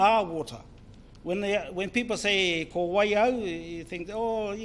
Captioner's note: foreign Language